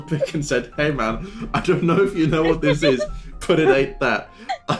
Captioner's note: laughter; laughter